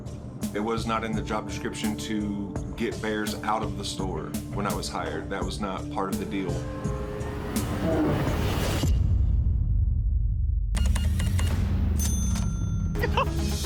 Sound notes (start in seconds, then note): 7.1 growls; 10.8 beeping; 11.9 cash register dings